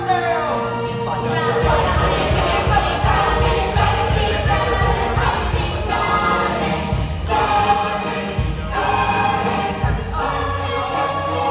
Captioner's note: LUCY and VOICES in the background; layered voices